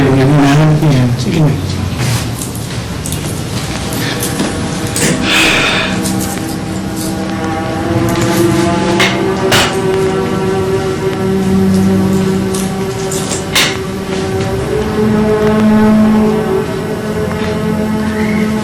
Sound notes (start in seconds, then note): 5.0 Joey sighs